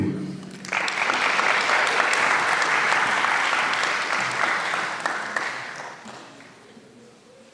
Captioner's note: applause